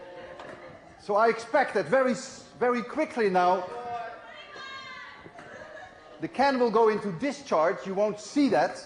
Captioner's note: crowd roars